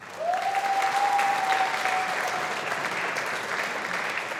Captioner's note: audience applauding